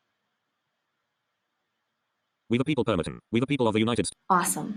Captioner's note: computerized voice with lower pitch